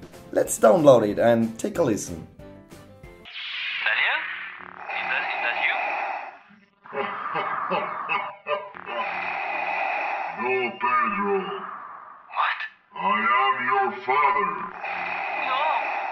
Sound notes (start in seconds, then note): 3.3 Skype call recording plays